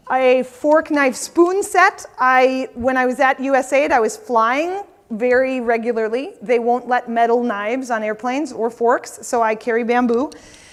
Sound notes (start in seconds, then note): none